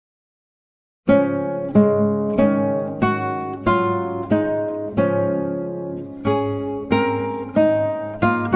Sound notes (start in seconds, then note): 0.0 silence